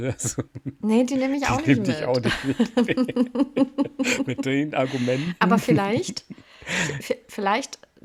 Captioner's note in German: gelächter